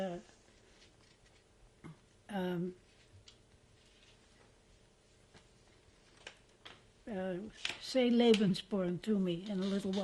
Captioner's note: pauses for 7 seconds